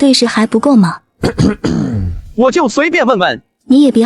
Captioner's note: coughing